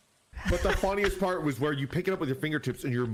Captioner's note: laughs